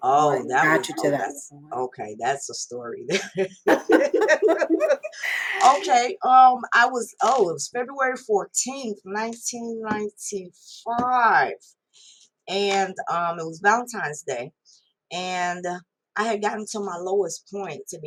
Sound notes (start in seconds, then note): 3.1 laugh